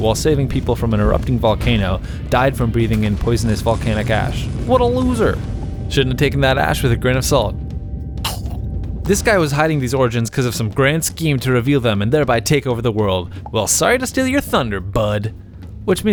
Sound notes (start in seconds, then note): 8.2 chokes